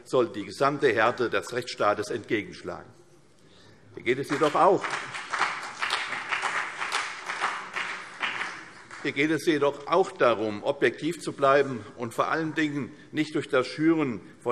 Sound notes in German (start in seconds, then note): 4.2 Beifall CDU und BÜNDNIS 90/DIE GRÜNEN